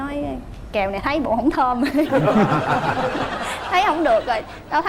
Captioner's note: laughing